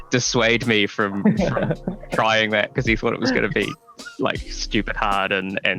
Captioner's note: laughs